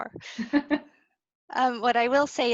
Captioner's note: laughs